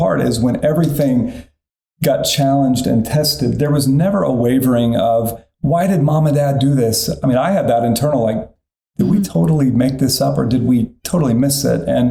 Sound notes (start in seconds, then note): none